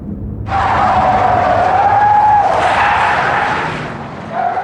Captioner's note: tires screeching